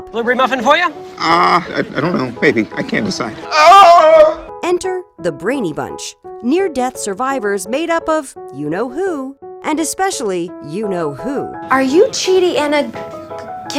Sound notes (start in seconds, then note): 3.4 screams